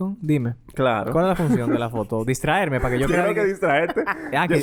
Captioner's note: laughs